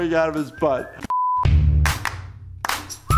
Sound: beeping; cheery music

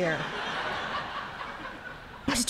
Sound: laughter

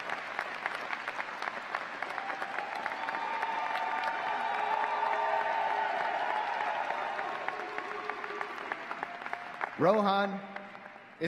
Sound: applause

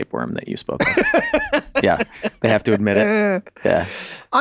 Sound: Charlie laughs

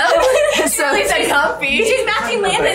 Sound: chuckles; laughs

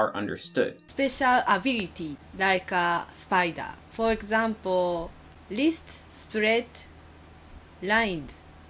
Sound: barely comprehensible accent example

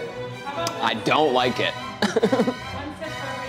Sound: laughs

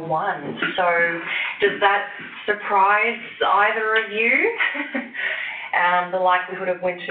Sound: chuckles

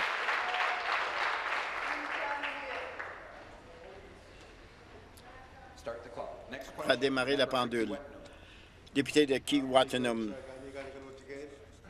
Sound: some Applause

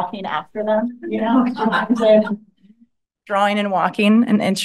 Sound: laughter

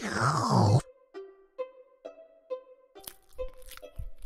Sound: slurping; chewing

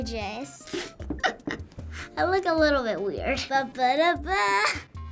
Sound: laughing

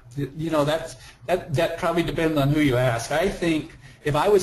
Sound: voiceover

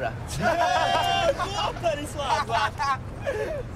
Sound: laughter

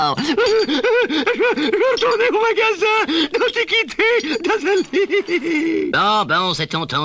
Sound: crying

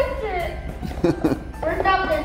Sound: laughing

